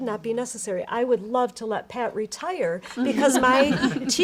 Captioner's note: all laughing